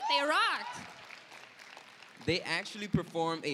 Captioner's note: applause